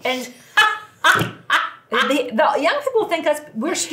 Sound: laughing

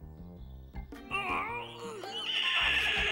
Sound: horse neighs; pink panther grunting

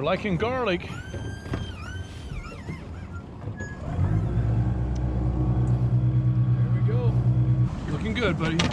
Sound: boat engine running

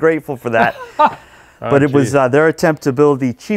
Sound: laughs

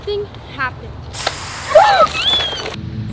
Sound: water spraying

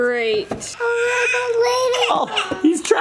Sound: cries

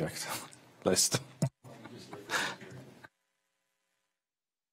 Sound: chuckles

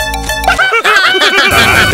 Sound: laugher

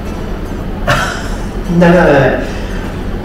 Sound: laughs

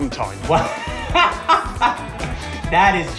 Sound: belly laughs

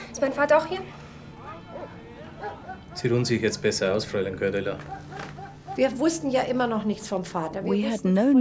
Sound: speaks in foreign language

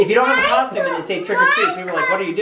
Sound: none

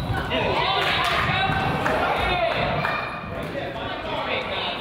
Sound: crowd applauds

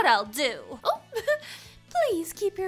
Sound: laughs

